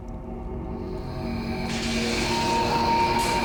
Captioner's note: wind whirring; dramatic music